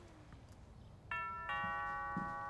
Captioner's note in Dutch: deurbel gaat